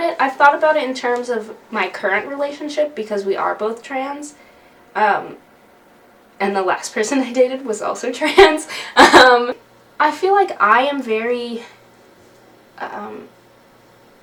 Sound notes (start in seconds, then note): 8.8 laughs